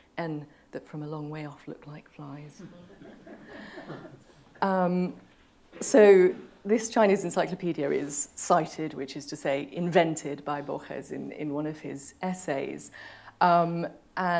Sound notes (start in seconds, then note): 2.6 laughter